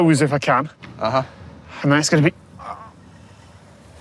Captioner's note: grunts